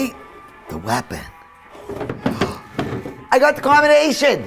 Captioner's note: gasps